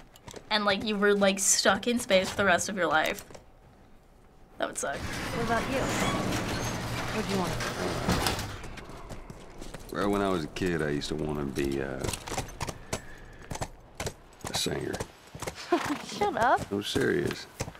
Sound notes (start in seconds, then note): 4.9 gate creaks; 15.6 Ellie laughs